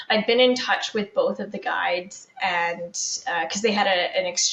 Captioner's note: none